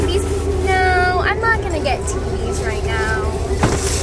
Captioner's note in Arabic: ساخرًا